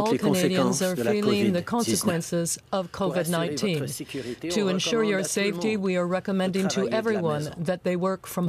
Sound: speaking French

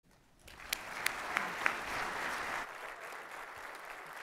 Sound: audience applauds

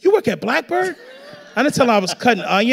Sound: audience laughing

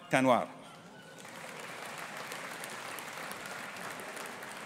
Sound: audience applauding

